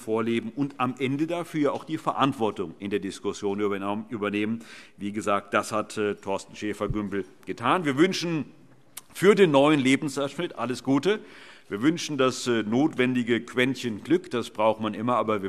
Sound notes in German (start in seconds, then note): none